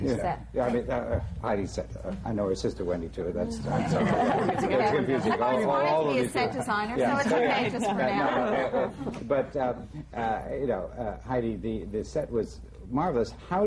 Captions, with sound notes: Heidi’s set. I know her sister, Wendy, too, that’s why. (LAUGHS) It’s confusing. I’ve always wanted to be a set designer, so it’s okay, just for now. But you know, Heidi, the set was marvelous.